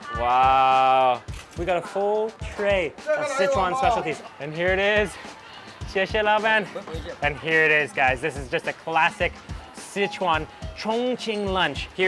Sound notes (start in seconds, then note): 0.0 speaks in a foreign language; 5.9 speaks in a foreign language; 6.7 man speaks in a foreign language